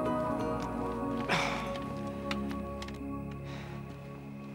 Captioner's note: sighing